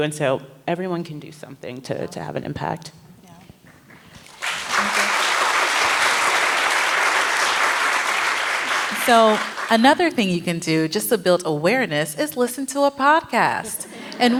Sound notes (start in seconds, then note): 4.1 applause